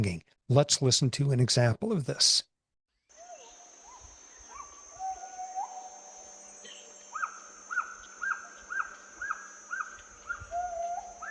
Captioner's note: gibbon "singing" plays